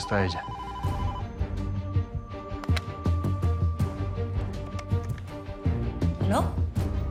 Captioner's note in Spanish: Suena el teléfono